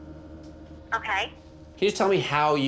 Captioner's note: woman on Phone